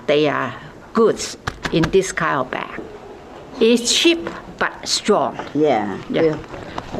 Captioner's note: crinkle of plastic